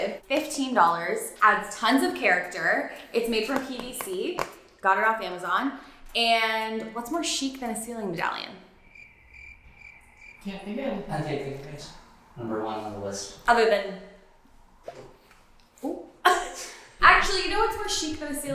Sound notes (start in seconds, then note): 8.8 crickets chirping; 16.2 laughing